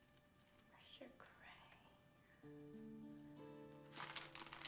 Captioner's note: whispering